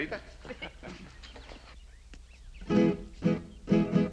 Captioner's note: both chuckling